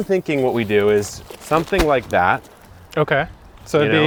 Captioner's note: bag thumping